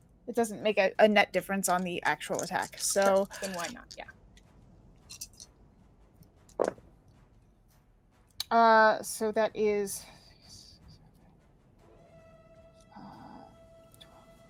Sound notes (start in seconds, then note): 6.6 dice rolling; 11.7 intense dramatic music